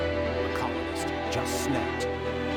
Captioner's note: loud orchestral music; narrator, faintly; loud orchestral music